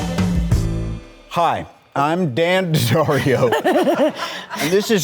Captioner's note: all laughing